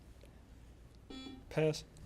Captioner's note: buzzer beeps